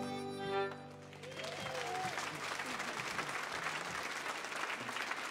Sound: audience cheering

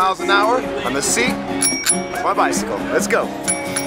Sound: bell rings

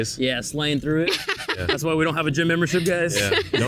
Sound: cackles

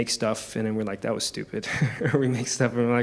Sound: chuckles

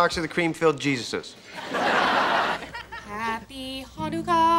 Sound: audience laughing

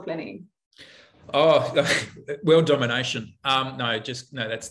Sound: chuckling

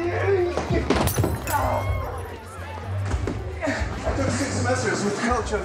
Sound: glass shattering

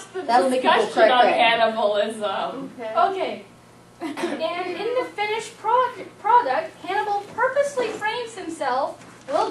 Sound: laughing and audience commentary

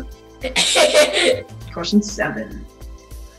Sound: Jacob laughs

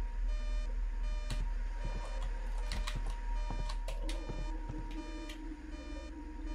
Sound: keyboard sounds

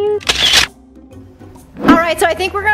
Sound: picture snap

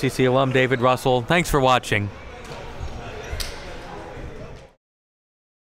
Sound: gymnasium bustles loudly

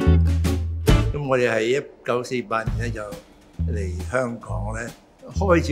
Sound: Cantonese

